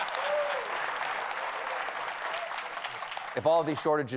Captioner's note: cheers and applause